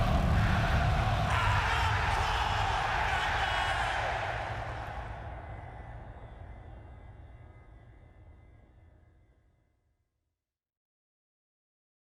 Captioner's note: crowd cheering